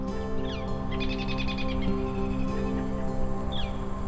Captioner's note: birds chirping